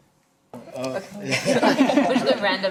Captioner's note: laughing